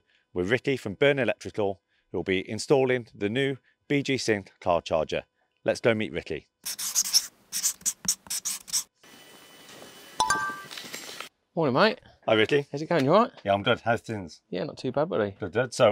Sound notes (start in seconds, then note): 7.5 pen scratching; 10.2 bell chiming